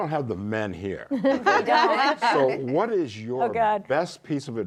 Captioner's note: laughter